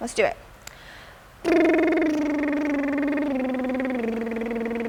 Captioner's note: lip burring sound